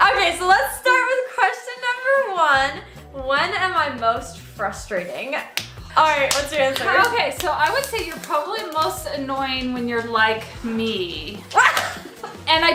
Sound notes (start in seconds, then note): 0.2 laughs; 5.5 smack; 11.4 laughs